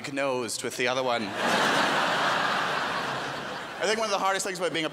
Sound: crowd laughs

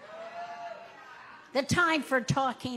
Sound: audience cheering

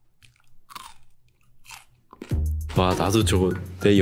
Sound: biting sound

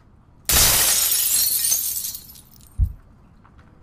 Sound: glass breaking

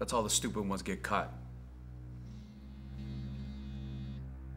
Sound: phone vibrates

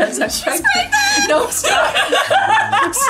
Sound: laughs

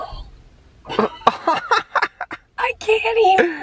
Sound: laughter

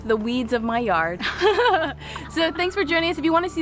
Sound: laughs

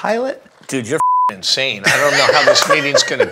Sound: laughing

